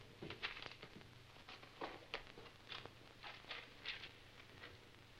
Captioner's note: papers crinkling